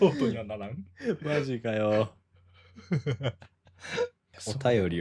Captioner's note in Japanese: 笑い